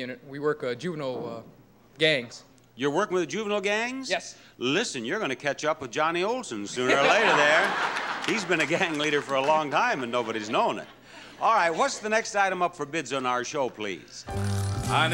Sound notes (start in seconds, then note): 6.7 laughing